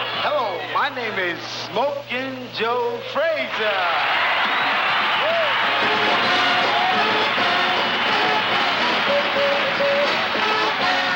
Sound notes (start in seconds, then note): 3.5 audience cheering; 3.9 audience applauding